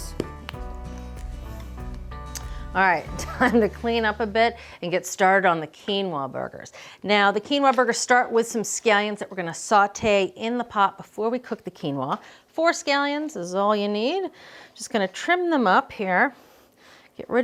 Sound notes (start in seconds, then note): 0.0 light music; 3.2 laughing